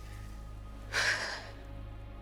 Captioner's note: sigh